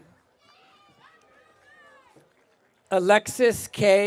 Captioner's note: audience cheering